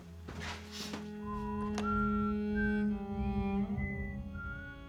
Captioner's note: whistling